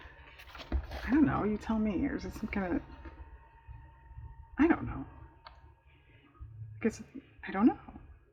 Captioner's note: laughs